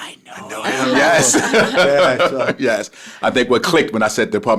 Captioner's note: group chuckles